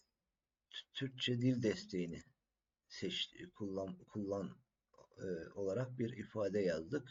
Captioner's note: turkish